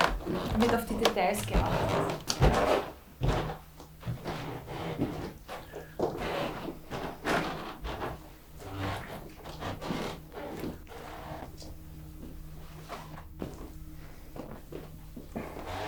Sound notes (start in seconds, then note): 3.3 footsteps in the background